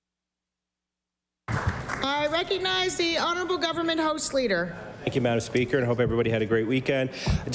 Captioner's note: applause